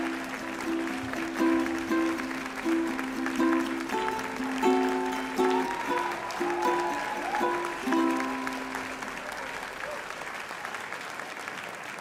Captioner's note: cheers and applause